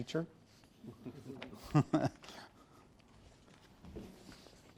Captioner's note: softly chuckling